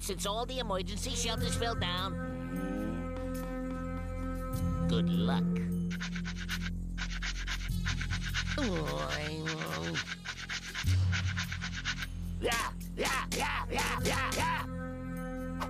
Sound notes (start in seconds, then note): 8.5 grumbling; 12.3 growling